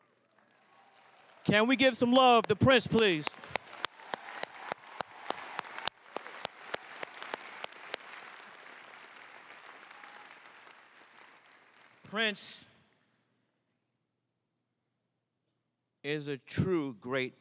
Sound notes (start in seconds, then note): 3.8 crowd applauses